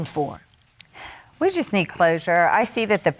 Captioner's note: exhales